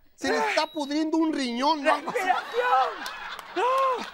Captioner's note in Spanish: Risas